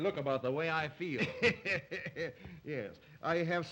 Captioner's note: Zaroff laughs